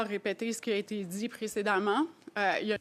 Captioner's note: speaking French